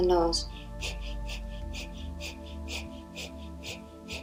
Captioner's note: breathing loudly